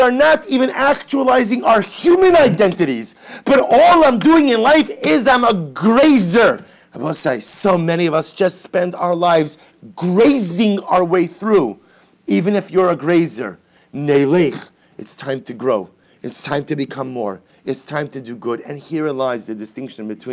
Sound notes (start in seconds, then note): 0.0 Hebrew; 13.6 Hebrew